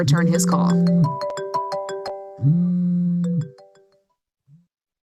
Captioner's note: phone ringing